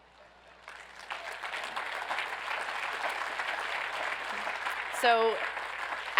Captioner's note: audience applauds